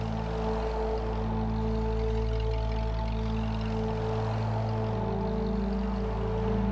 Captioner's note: car engine rumbling